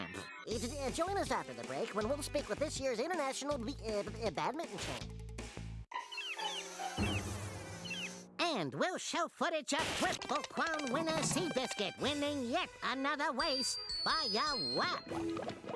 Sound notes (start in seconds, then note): 6.0 flies buzzing; 15.0 water bubbling